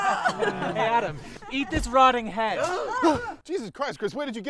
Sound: sounds of disgust; everyone gasps

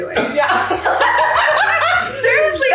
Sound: all laughing

